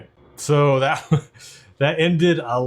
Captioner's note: laughs